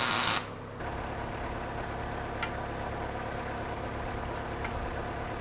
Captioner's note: forklift engine rumbling